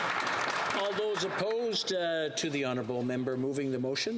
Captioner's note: some Applause